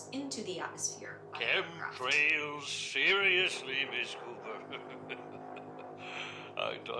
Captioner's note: laughs